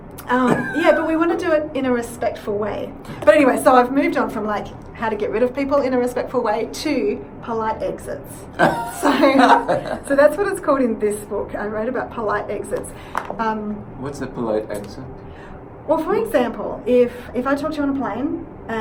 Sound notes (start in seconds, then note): 8.6 laughs